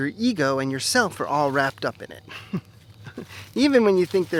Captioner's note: chuckles